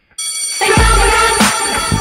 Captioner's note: school bell rings